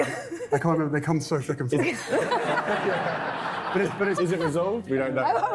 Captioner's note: laughing